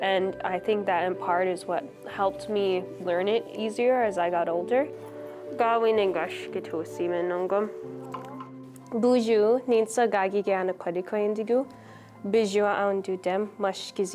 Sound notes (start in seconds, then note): 5.8 speaking Ojibwe